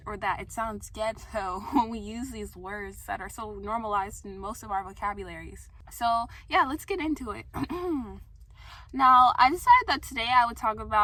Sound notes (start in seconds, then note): 7.6 clears throat